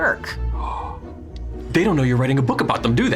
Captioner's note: gasps